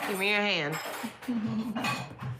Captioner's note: giggles